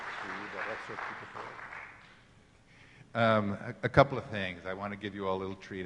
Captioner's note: applauding